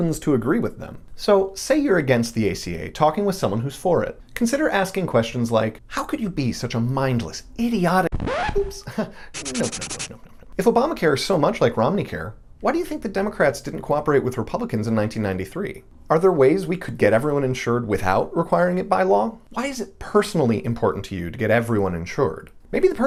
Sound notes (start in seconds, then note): 9.3 erasing sound effect; 9.3 record scratch